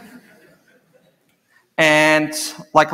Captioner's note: laughter